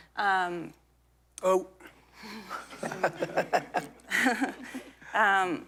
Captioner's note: laughter